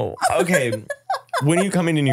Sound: laughing

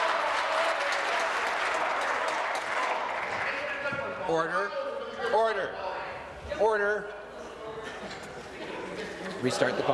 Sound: cheers; applause

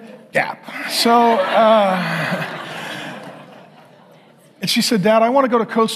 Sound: congregation laughing

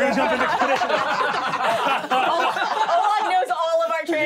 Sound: laughing

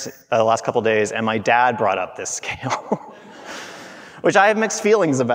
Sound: laughing

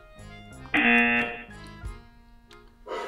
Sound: buzzer rings

